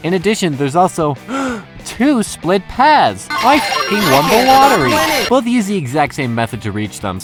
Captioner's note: gasp